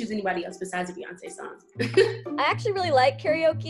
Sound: giggles

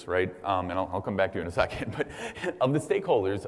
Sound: laugh

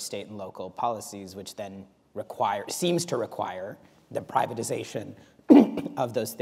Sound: clears throat

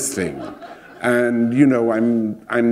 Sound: laughter

